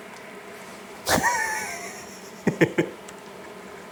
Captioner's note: laughs